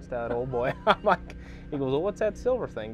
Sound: laughs

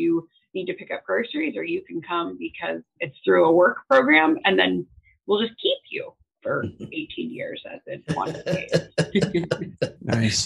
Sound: laughter

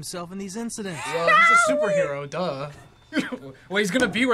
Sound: laughs

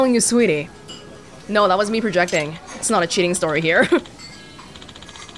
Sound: chuckles

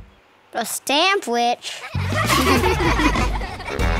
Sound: laughing

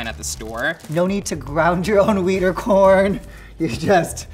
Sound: laughing

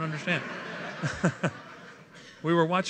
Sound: laughter

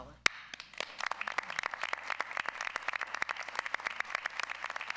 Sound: audience applauds

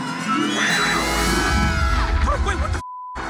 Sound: Charlie grunts; beep

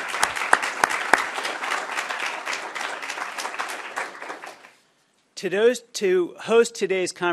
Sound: applause

